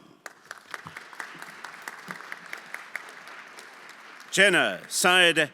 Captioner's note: everyone applauding